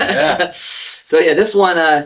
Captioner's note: laugh